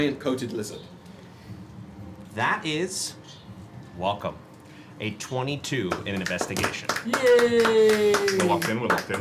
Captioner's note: clapping